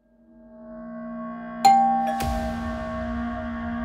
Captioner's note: doorbell rings